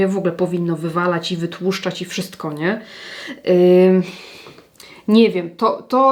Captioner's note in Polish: wciągnięcie powietrza